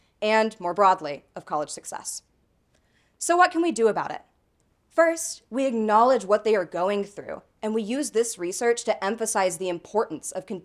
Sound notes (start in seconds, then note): none